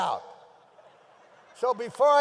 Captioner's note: audience laughs